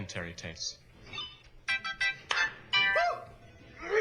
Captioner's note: game chiming